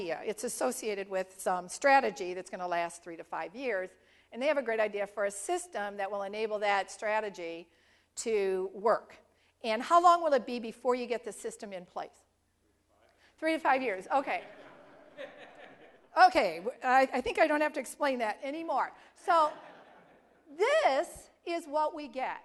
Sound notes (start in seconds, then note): 14.4 laugh